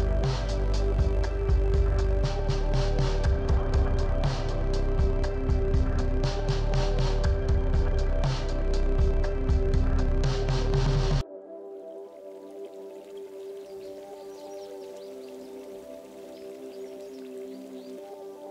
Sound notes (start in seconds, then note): 11.6 water trickling; 14.6 birds twittering distantly